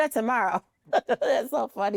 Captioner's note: laughs